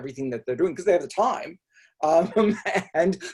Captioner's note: laughs